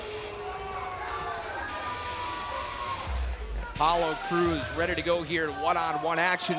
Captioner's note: crowd chatter